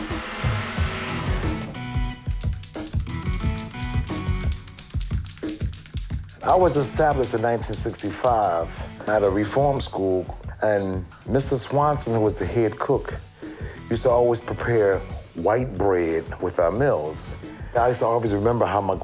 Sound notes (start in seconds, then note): 0.3 smooth rhythmic music; 2.6 paint can clacking